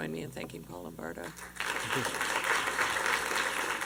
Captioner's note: applause